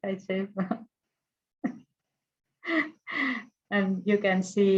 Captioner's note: laughs